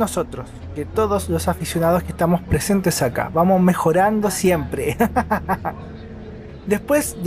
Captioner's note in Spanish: risas